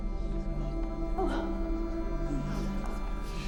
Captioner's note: Martha crying